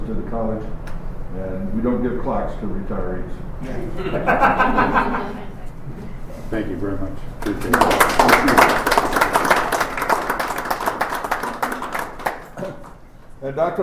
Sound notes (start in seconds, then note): 3.6 laughter; 7.4 applause